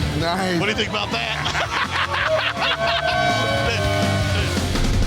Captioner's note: cackles